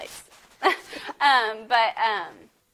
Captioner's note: giggles